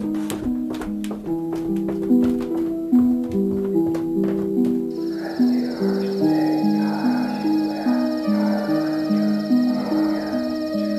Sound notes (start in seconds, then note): 5.8 mysterious whisper chanting